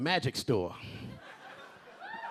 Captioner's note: a few audience members laughing and cheering